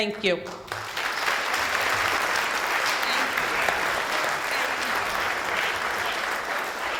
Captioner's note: applause